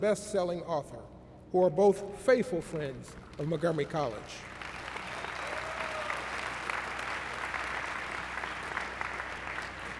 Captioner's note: applause